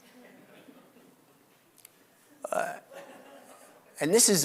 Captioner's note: audience laughs